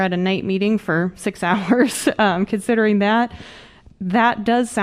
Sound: laughter

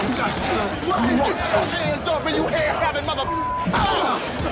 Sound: beep; fist punching body; grunting

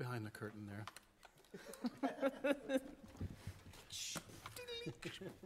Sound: laughter

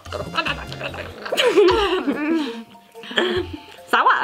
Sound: laughing

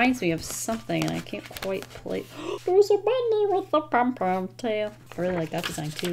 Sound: gasps

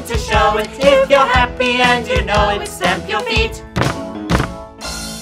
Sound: stamp stamp

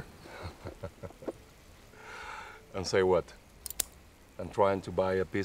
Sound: laughing

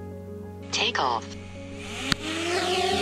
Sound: voiceover

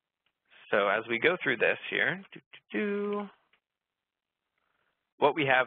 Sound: hums

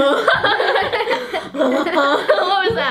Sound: laughing

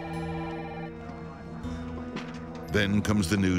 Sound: phone ringing; tense music

